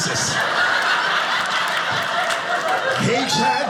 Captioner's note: audience laughing